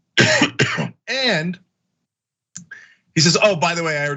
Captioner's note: cough